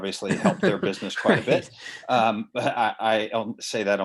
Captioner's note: laughing